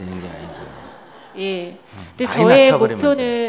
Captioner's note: audience laughter